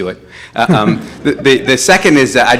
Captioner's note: audience laughs